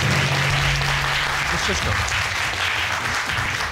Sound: audience applauding

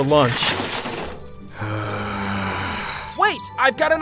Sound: loud sigh

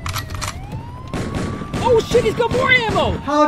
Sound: gun cocks; shots fired

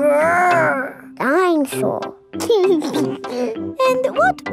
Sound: giggles

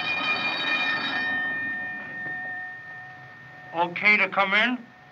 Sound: ringing Stops

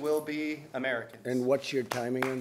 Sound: applause

